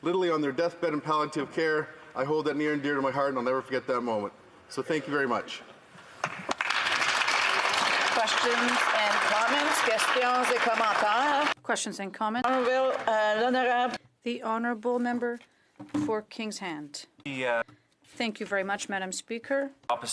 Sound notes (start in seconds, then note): 12.1 applause